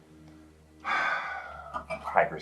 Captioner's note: sighs